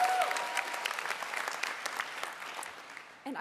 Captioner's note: applause